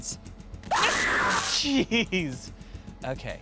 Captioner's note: electricity crackling, recorded scream